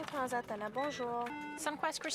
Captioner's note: speaking French